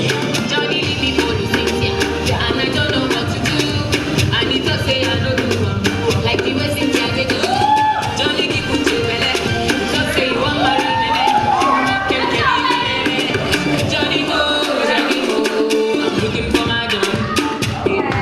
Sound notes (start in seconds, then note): 7.5 intermittent cheers